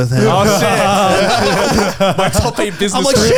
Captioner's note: all laughing